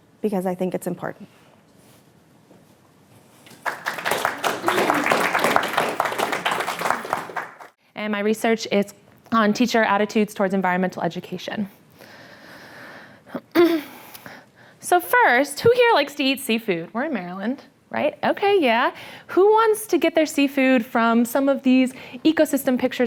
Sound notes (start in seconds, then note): 3.4 applause